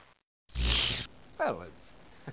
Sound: fizzle

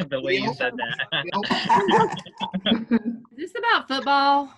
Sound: laughter

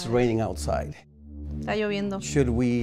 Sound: speaks in foreign language

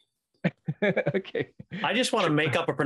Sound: chuckles

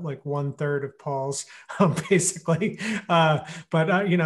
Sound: laughing

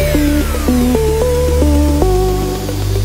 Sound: mmm

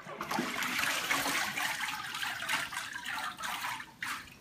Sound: sound: water dripping off deckle

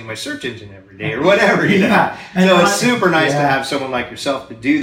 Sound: laughs

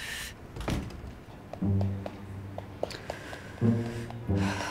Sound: tapping

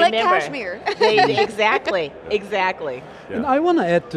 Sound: laughs

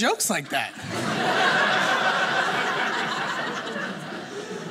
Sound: audience laughing

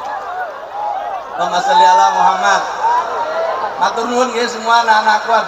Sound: applause

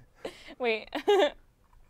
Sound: laughs

